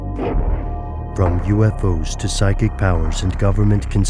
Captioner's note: voiceover